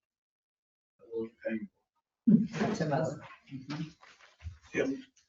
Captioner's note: people chattering indistinctly